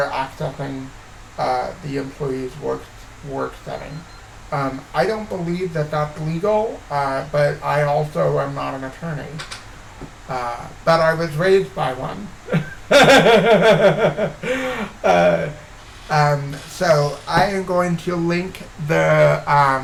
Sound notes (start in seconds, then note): 12.4 laughs